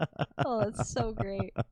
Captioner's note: laughing